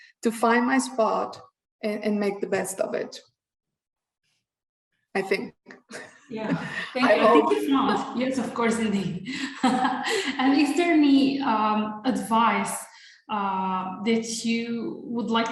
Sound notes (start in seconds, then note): 6.5 chuckles; 9.8 laughs